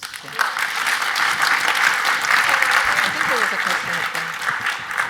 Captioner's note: audience applauds